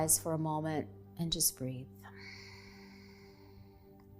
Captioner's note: exhaling